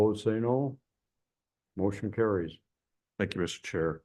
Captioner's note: silence